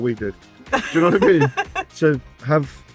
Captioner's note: laughing